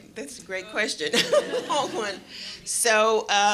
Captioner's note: laughter